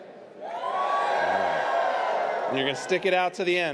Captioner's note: audience cheers